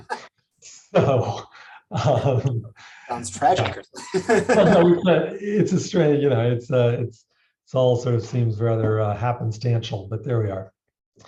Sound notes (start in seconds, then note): 0.0 laughs; 3.0 laughs